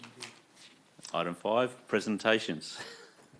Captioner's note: laughs